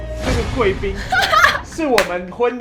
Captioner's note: laughs in callback